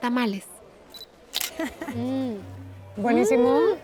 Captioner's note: camera shutter clicks, laughs; speaking Spanish